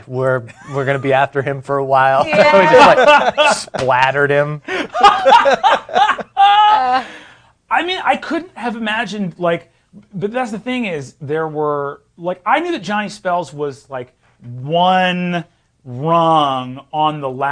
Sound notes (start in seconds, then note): 2.2 laughing; 6.1 others laughing